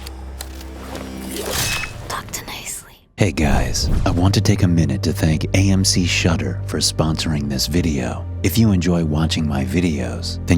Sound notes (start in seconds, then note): 0.0 intense music; 0.6 knife slashing